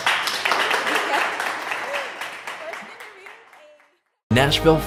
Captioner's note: audience applauding